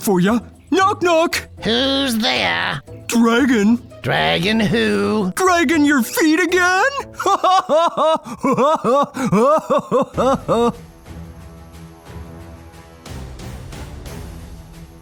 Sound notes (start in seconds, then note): 6.8 laughs; 10.7 dramatic music